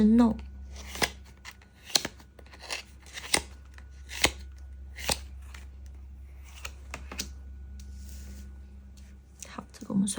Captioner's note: drawing cards